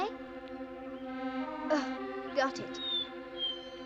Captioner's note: whimpering